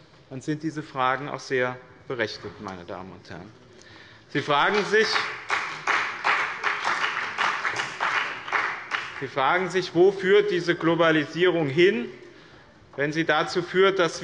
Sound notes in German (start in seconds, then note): 4.4 Beifall bei dem BÜNDNIS 90/DIE GRÜNEN und der CDU